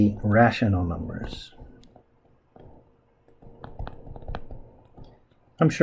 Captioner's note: writing Sounds